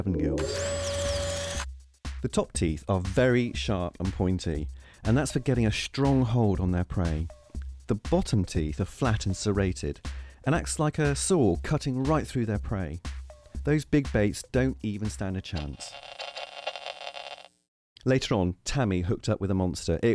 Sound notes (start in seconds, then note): 15.6 static